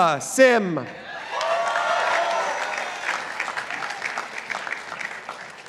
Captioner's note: participants applauding